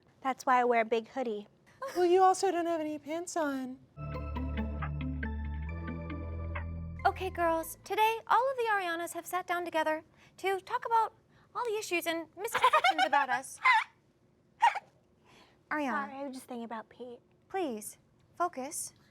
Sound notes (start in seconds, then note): 4.0 upbeat music; 12.5 D**ked-Down Ariana laughs